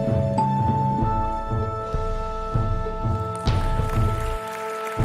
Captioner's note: audience applauding